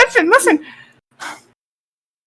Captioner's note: sigh